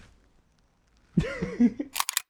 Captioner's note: she laughs